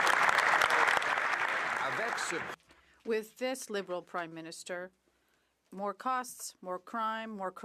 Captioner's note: some Applause